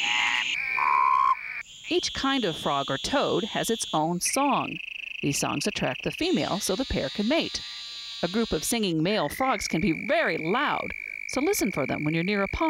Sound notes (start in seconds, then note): 1.8 frogs croaking